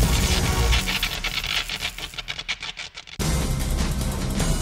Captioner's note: crackling